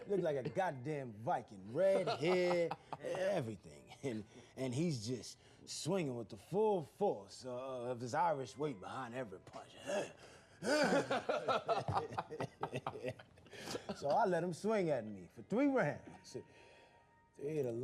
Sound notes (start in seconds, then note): 10.2 mimics grunting; 10.6 laughing